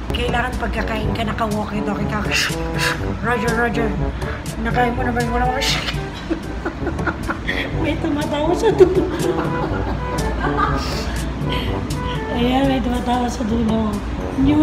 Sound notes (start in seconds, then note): 5.6 laugh hard